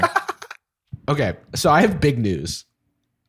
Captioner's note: laughter